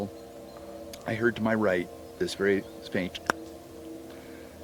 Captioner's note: clucks